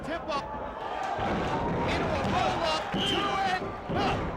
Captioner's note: crowd cheering